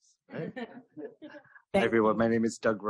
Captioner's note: laughter